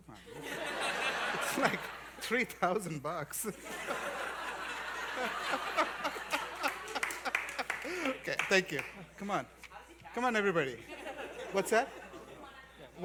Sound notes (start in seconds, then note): 3.4 laughter